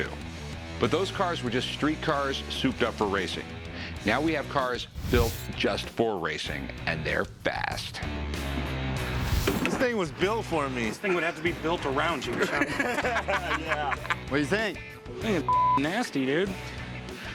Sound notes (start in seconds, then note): 10.8 laughs